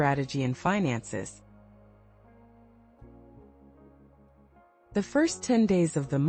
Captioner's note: pause